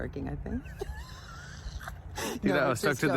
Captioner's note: both laugh